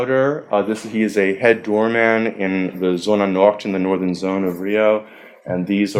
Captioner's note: foreign language